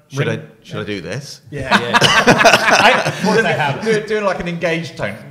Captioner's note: laughs